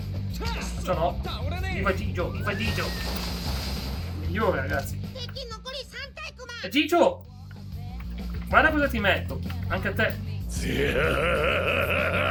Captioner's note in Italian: gemito